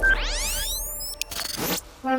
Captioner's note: beeping